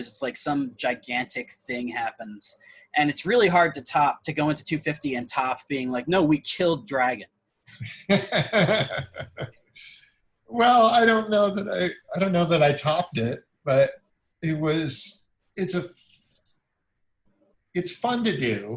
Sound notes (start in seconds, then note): 7.8 laughs